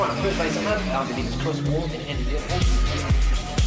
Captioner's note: speakers trail off; rave music